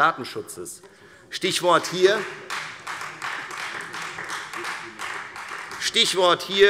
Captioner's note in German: Beifall Freie Demokraten